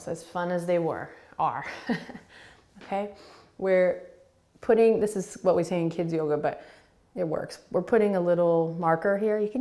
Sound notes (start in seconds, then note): 1.3 laughing